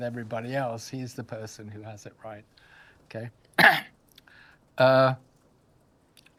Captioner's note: coughs